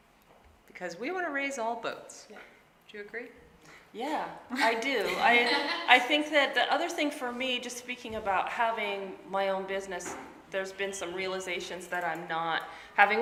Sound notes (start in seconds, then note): 5.0 laughing